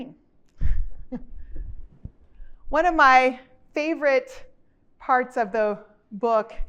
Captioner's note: chuckles